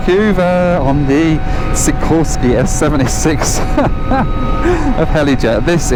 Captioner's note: laughs